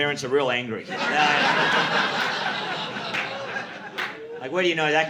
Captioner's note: audience laughing